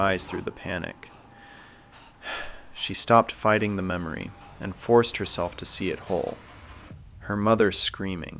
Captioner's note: sighs